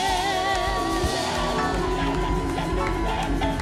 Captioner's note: applause